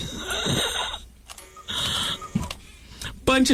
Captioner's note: laughter